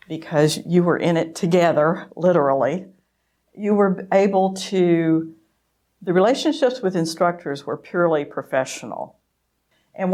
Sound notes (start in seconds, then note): none